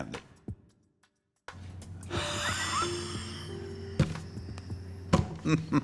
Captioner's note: chuckles